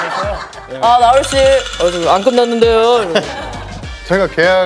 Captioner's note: shivers